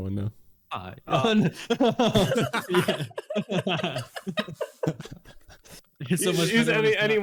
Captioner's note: laughter